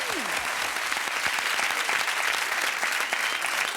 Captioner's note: audience clapping